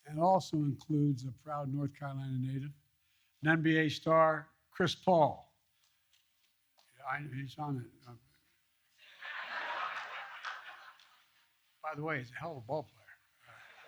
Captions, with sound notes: That also includes a proud North Carolina native, an NBA star Chris Paul. He's on it. (laughter) By the way, he's a hell of a ballplayer